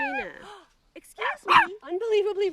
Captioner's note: gasps; Lucia barking